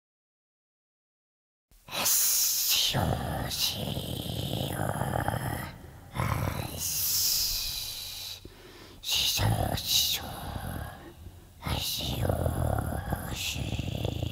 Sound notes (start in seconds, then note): 0.0 voice of smeagol